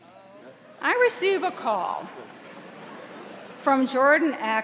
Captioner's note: audience laughing